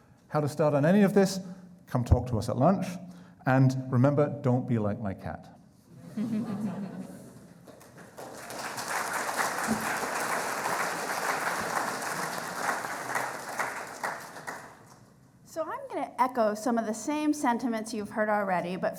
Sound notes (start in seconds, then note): 6.0 crowd laughing; 7.7 applauding